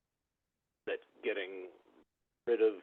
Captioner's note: by phone